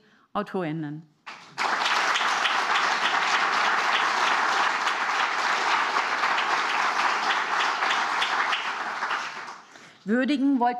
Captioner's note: applause